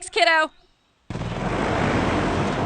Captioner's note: engine roars